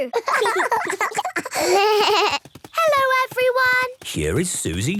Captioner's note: laughter; bleating